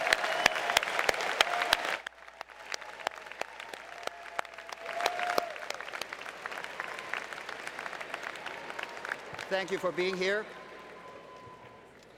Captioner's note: applause